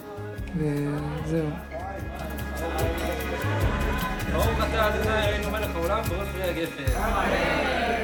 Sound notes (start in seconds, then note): 2.7 people chattering in foreign language